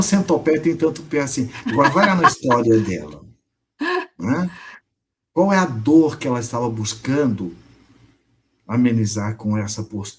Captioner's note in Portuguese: risadas